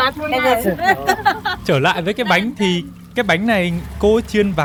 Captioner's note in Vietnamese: tiếng cười